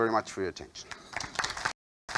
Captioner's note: audience clapping